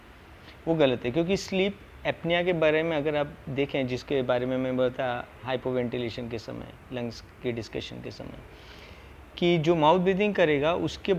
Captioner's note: mouth breathing